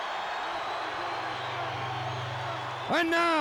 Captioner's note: crowd cheers